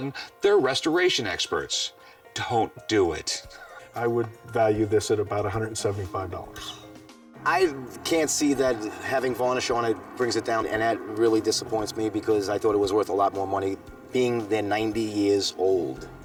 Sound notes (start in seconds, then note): 6.2 sigh